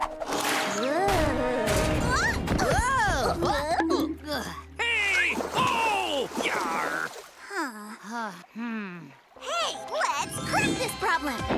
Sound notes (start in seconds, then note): 1.7 grunting